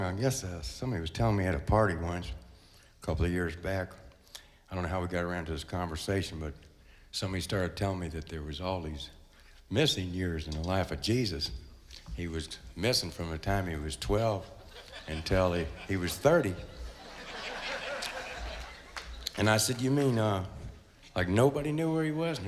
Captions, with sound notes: I guess that somebody was telling me how to party once, a couple of years back. I don't know how we got around to this conversation, but somebody started telling me that there was all these missing years in the life of Jesus. He was missing from the time he was 12 until he was 30. (crowd laughs) And I said, "you mean like nobody knew where he was?"